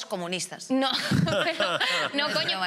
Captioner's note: laughter